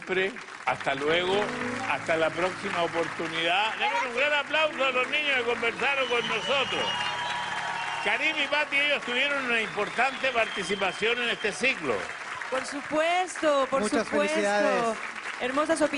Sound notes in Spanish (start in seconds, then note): 7.6 Aplausos